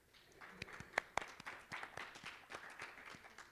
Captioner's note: applause